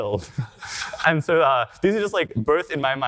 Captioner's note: audience laughter